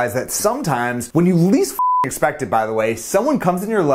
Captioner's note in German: piepst